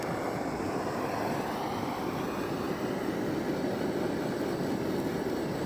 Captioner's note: blow torch blowing